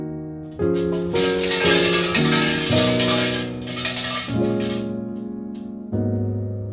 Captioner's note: sound of a bell ringing